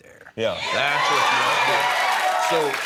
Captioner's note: cheering